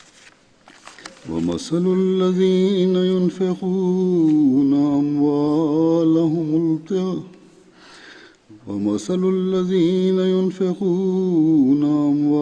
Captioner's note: Arabic - Holy Quran 2:266